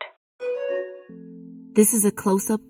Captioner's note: electronic alert ringing